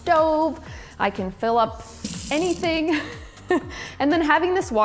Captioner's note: laughs